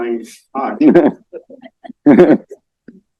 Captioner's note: laughter